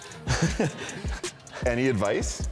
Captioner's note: laughs